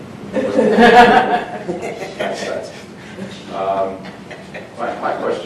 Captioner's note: group laughing